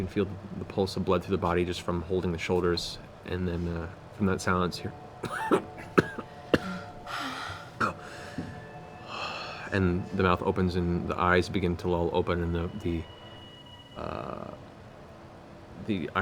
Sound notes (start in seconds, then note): 5.2 weak coughing